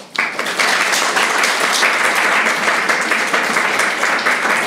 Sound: audience applauds

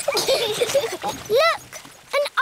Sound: both giggle

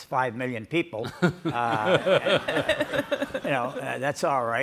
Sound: all laugh

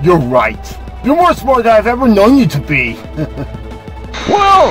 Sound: chuckles

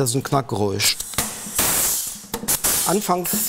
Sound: hiss

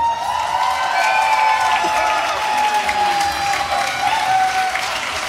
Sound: cheering

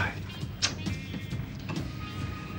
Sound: clicks tongue

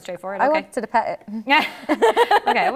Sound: laughter

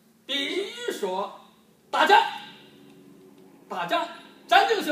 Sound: speaking foreign language

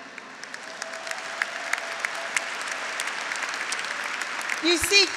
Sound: graduates applauding; graduates cheering

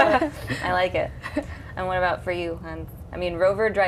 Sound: laughter

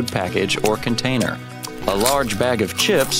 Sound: sounds of chips crunching

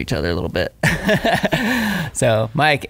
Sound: laughing

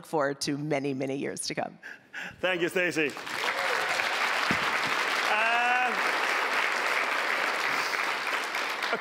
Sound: applause

